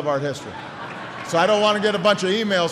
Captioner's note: laughter